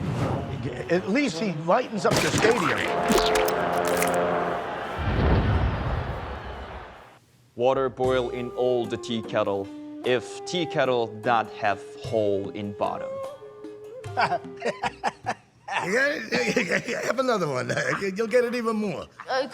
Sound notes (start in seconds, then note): 15.6 laughing